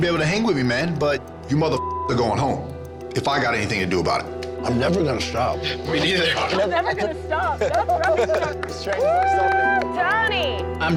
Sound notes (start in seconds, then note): 1.7 beep; 9.0 woman cheers